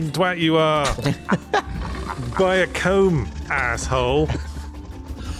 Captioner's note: laughter